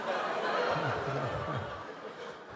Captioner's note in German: Lachen